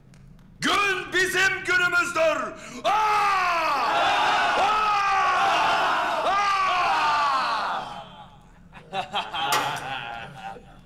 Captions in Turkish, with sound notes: Gün bizim günümüzdür! -Aa! -(Hep bir ağızdan) Aa! (Gülüyorlar)